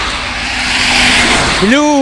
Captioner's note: road noise